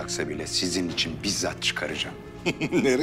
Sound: laughter

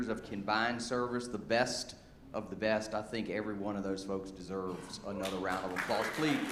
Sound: applause

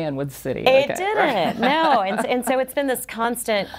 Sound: chuckles

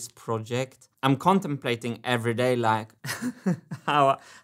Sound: chuckles

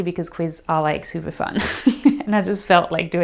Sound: laughs

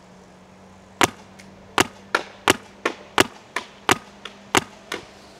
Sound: paintball gun shooting

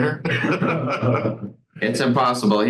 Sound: all laughing

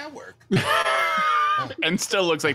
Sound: all laugh

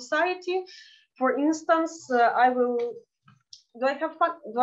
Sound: speaking in Yiddish

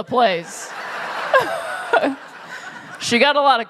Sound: laughter

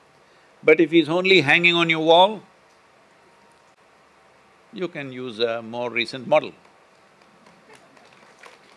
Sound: applause

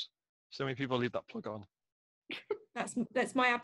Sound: laughs

